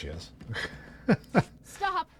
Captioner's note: laughs